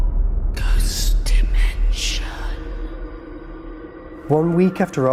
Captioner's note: ghostly Voice